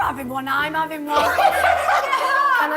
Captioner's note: laughs